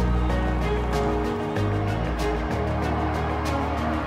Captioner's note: crowd cheering